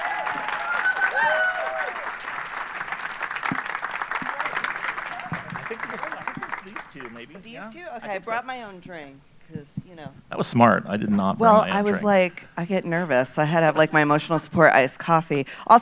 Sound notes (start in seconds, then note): 5.5 audience applauding and cheering